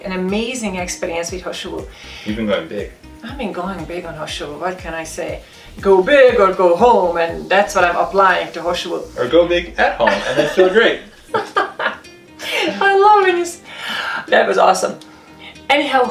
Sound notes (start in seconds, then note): 9.8 laughing